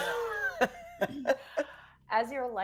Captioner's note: people laughing